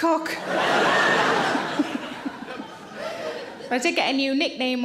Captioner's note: audience laughs